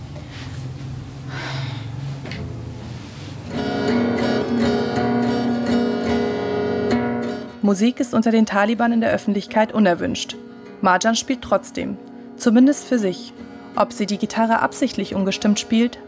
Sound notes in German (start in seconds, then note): 1.2 Sie seufzt; 3.8 Verzerrte Klänge